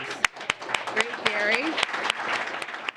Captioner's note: applause